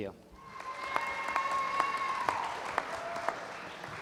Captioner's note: applause